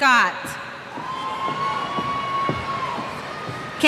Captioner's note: cheers